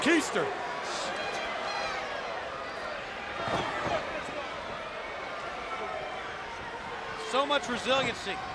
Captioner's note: crowd chatter